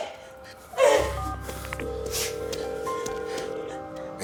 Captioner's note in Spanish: Sonido al marcar